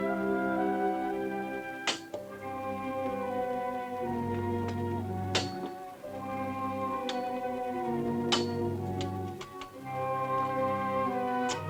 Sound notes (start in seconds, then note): 1.9 metal clanging; 6.0 grim music continues